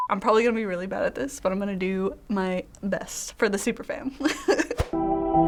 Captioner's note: chuckles; melancholy music